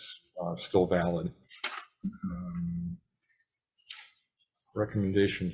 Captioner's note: papers rustling